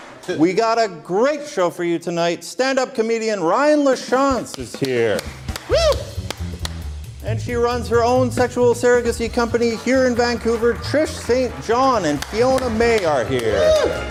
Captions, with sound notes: ≫ WE GOT A GREAT SHOW FOR YOU TONIGHT. STANDUP COMEDIAN RYAN LACHANCE IS HERE. [ Cheering] ≫> AND SHE RUNS HER OWN SEXUAL SURROGACY COMPANY, HERE IN VANCOUVER. TRISH ST. JOHN AND FIONA MAY ARE HERE.